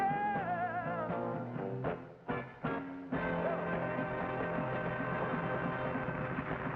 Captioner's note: audience applauds